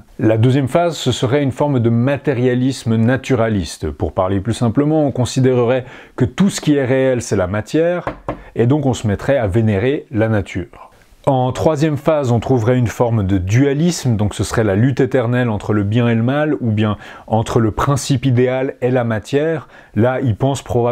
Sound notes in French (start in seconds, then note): 8.0 toc toc